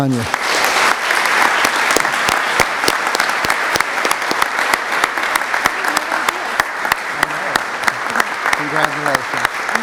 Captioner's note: applause